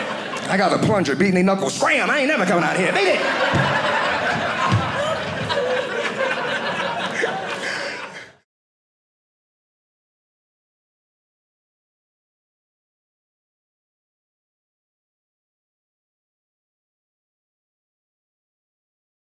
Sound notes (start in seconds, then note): 2.2 audience laughing